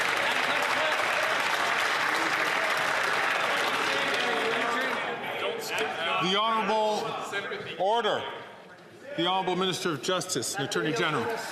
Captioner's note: some Applause